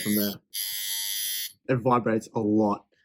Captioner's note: machine whirring